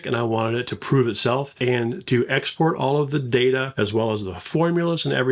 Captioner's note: none